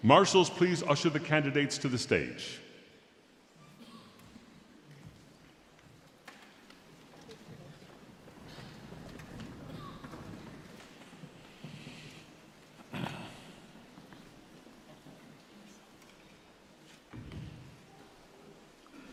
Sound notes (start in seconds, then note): 8.4 footsteps clomping